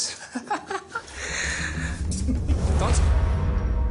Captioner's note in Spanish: Risas